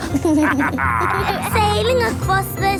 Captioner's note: captain dog and kids laughing